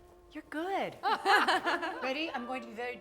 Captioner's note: laughing